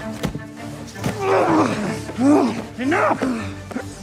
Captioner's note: men grunting